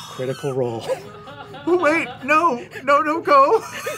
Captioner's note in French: rires